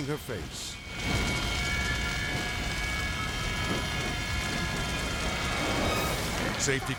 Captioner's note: fire roaring; edgy dramatic music